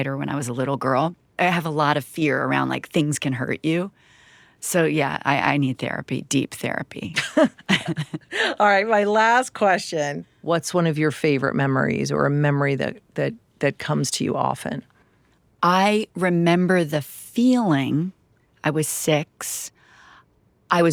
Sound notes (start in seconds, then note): 7.2 laughs